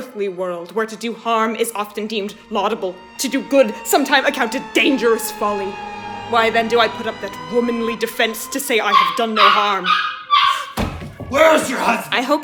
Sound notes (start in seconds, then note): 8.8 dog barking